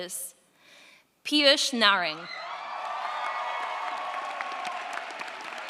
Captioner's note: audience applauds